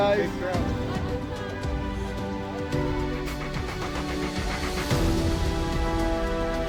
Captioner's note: upbeat reflective music; people faintly talking